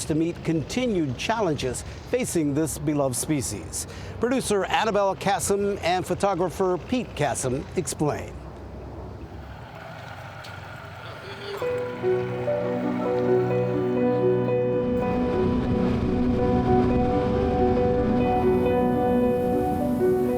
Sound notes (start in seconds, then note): 9.7 boat motor rumbling